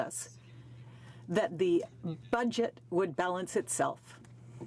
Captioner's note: speaking in french